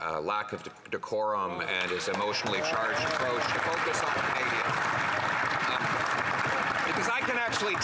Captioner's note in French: voix de l'interprète